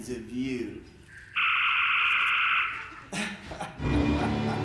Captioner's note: laser firing; Khan laughing sinisterly; ominous music